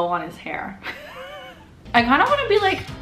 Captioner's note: laughs